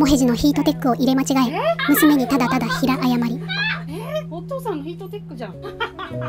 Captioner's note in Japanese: ＆爆笑